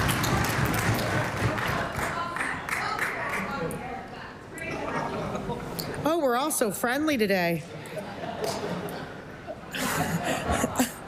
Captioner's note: applause